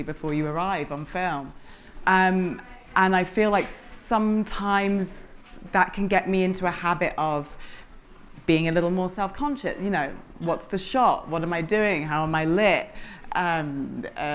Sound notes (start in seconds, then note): none